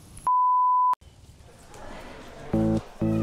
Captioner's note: beeps; dynamic music